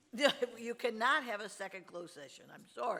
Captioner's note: laughs